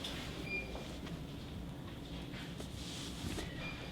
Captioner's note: machine beeping